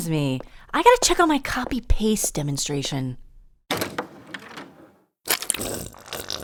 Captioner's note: door opening, squelching sound